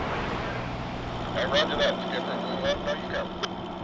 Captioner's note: man On The Radio